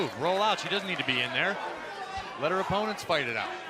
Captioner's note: crowd cheering